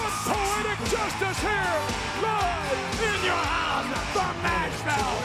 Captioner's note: audience cheering